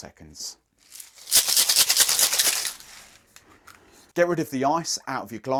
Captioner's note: ice rattling